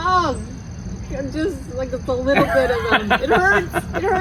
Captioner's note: laughs